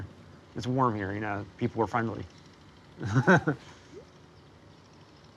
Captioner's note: laughs